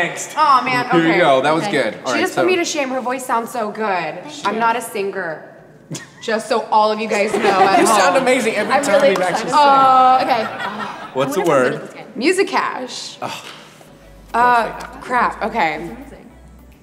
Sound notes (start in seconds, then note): 13.2 sighs